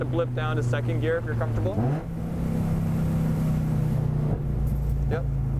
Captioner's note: engine revving